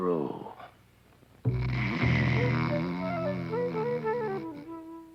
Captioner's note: snoring